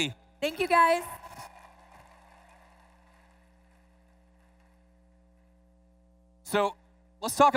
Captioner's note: applause